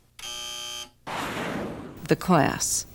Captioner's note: buzzer